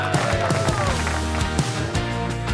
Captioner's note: cheers and applause; upbeat music